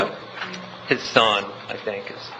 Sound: laughing

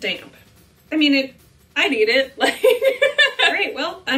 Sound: laughing

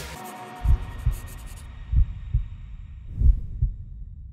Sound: heartbeats

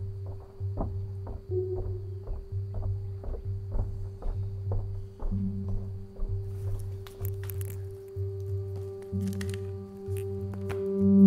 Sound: footsteps approaching

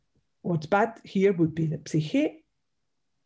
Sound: speaks in Greek

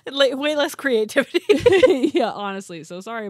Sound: laughs

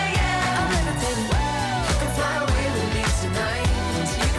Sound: woo

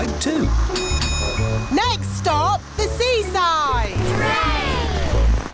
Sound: bell dings

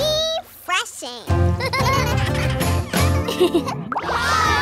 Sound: laughing

